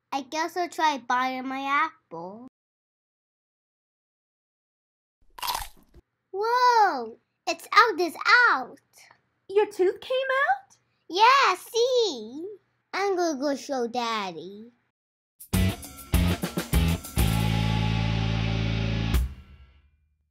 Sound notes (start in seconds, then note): 5.3 apple crunch; 15.5 dramatic music